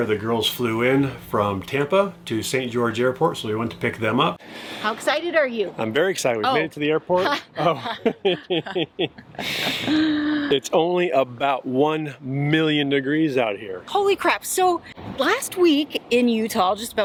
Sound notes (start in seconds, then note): 7.1 both laughing